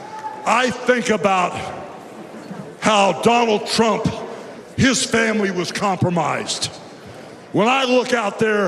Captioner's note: cheers and applause